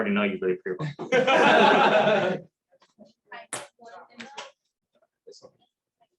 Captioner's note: laughter